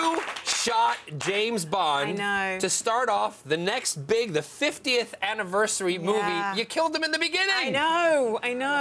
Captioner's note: cheers and applause